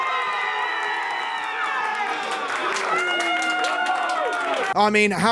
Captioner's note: applause